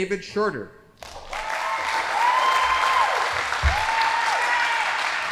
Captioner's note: audience applauding